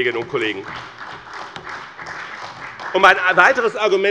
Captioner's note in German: Beifall bei BÜNDNIS 90/DIE GRÜNEN und der CDU